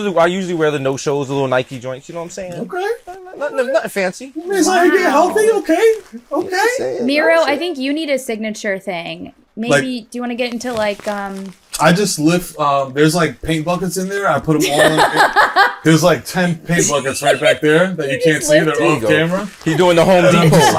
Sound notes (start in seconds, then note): 14.6 laughs